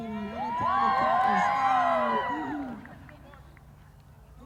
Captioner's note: cheers